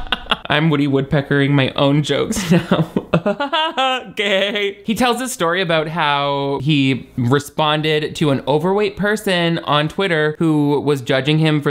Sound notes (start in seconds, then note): 0.0 laughs; 3.4 imitating Woody Woodpecker laugh